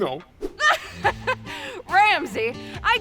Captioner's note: laughter